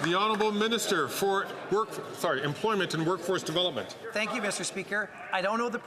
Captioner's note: some Applause